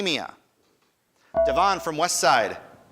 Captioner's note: buzzer dinging